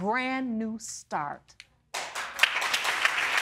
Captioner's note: audience applauding